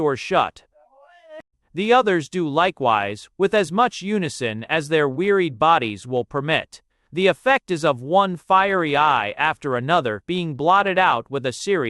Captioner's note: _Groaning. _